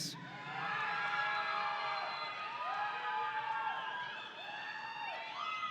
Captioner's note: audience cheering